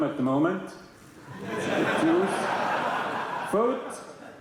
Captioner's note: laughter